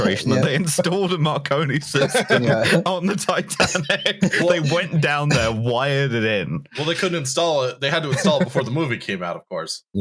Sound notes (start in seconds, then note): 1.8 laughing